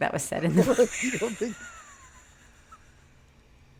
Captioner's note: laughs